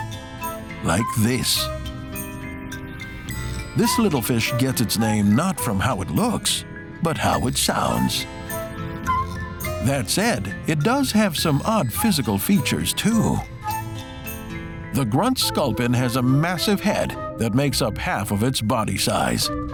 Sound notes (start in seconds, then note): 0.2 playful music; 7.7 sculpin whistles